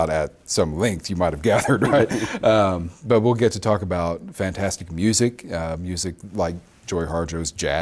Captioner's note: both laugh